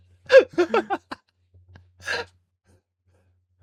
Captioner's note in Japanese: 笑い